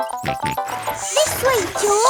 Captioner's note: george snorts